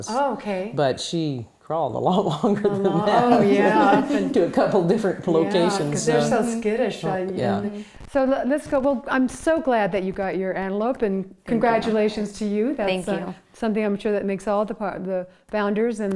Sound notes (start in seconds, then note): 2.2 laughs